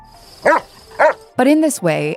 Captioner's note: dog barks